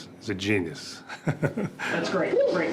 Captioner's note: laughs